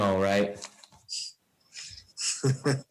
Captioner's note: laughs